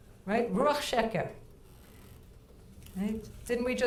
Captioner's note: speaking in foreign language